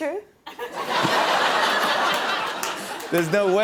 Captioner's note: laughter